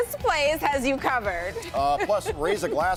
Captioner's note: laughter